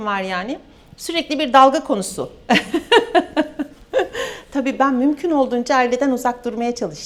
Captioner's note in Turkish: kahkaha